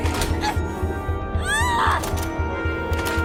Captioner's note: shouts